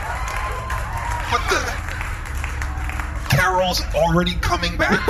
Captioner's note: audience laughs